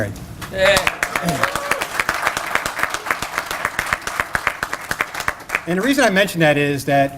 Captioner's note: applause